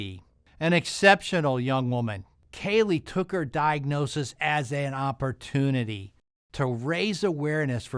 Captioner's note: none